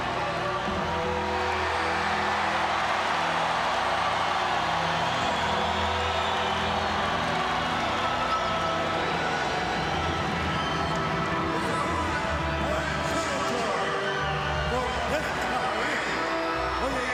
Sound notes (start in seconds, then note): 2.5 crowd cheers; 10.2 solemn funereal music